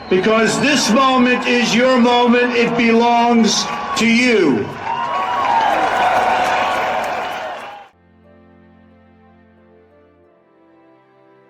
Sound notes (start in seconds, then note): 5.8 audience cheers; 7.9 somber music